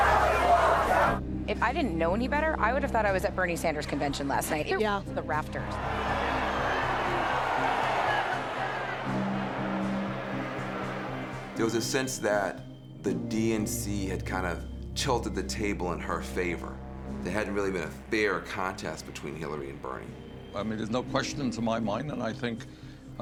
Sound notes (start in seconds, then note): 0.0 continued cheering and jeering; 11.7 crowd cheering; 11.7 soft music